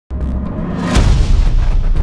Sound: sound of an Explosion

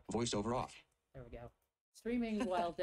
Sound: laughs

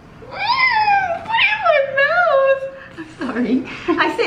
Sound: screams

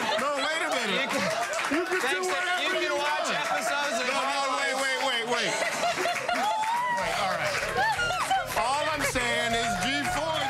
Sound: applause

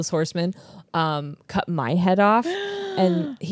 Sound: gasps

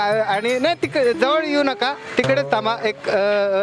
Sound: nervously

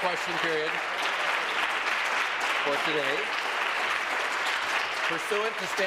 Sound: applause

